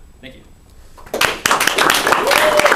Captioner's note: clapping